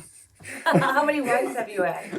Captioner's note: laughing; laughs